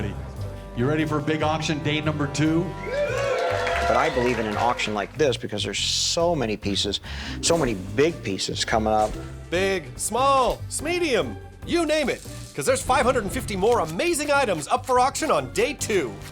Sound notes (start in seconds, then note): 2.6 cheers and applause